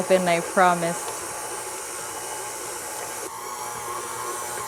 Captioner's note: machine whirring